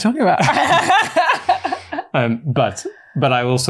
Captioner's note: laughs